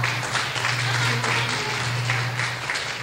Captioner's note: clapping